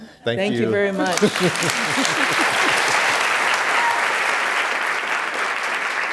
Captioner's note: applause